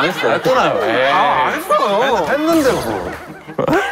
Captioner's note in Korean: 울먹